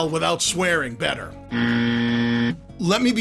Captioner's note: buzzer sounds